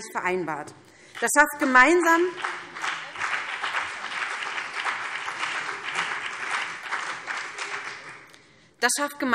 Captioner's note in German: Beifall BÜNDNIS 90/DIE GRÜNEN